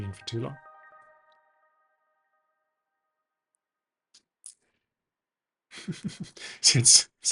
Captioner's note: laughs